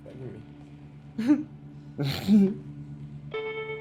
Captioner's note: chuckles